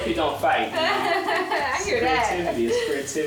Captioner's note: laughing